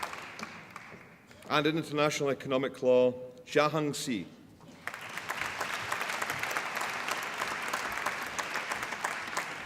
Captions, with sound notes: And in International Economic Law Zhang Ze (APPLAUSE)